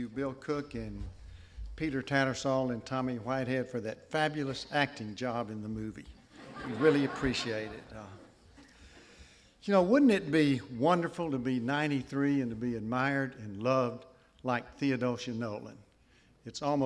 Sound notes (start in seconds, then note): 6.2 laughter